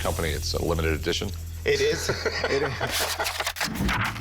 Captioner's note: laughing